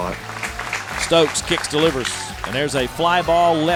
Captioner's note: voiceover